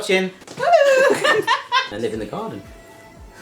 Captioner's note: laughing